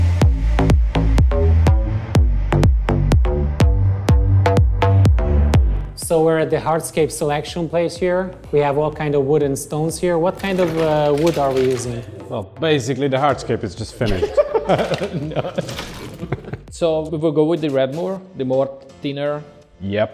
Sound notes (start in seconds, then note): 14.0 group laughs